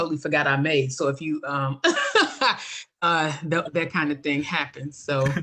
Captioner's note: laughs